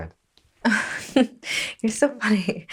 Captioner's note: Sarah laughs